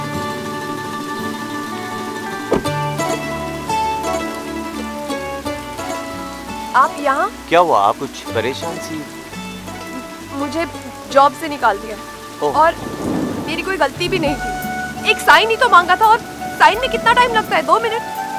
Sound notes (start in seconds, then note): 2.4 Car door closes